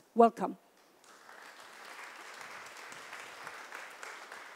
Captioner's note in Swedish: Applause